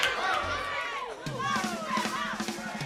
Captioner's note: crowd cheering